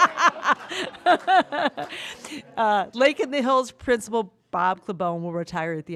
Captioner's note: laughter